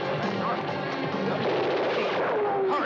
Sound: dramatic music; guns blasting

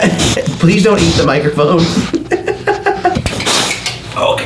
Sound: laughs

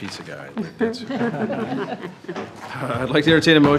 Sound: attendees laughing

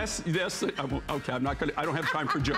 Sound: laughter

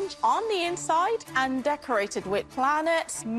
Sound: none

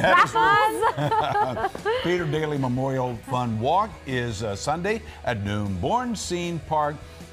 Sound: laughter

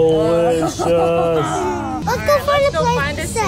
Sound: laughs

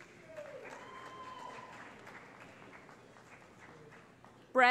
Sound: cheering

